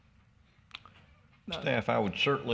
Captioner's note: man coughs